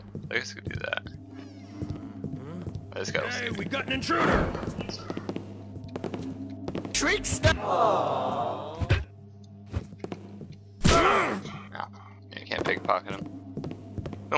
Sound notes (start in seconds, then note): 8.4 Blackjack thuds